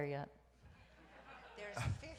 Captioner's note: audience laughs